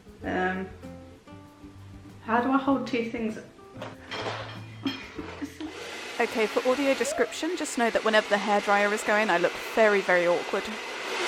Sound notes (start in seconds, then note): 5.2 hair dryer sound